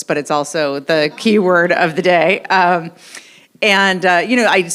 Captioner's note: audience laughs